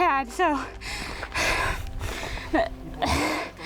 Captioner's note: sighs